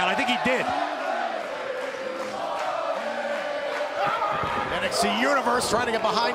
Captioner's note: crowd cheering